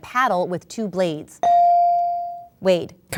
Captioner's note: ding